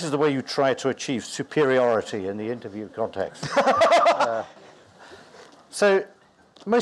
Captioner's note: hearty laughter